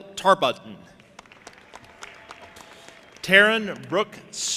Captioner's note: audience applauding and cheering